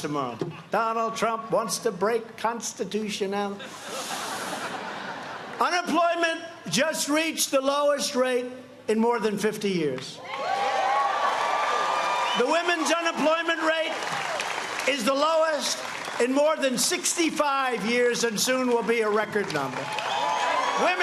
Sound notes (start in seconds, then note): 6.5 laughter; 12.6 cheers and applause